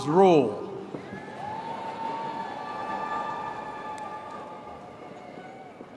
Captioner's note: applause